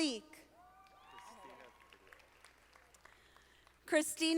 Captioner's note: audience applauding